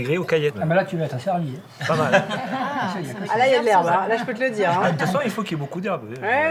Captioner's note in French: rires